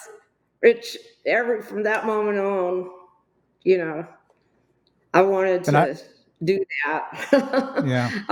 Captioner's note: laughs